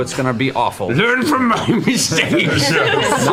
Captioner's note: Victor voice